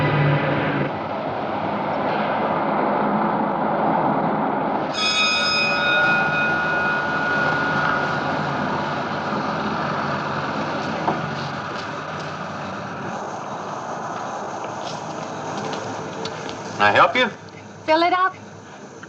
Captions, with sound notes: (service bell dings) - May I help you? - Fill it up.